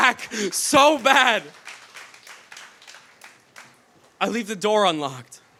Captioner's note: audience claps